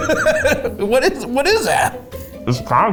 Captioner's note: laughs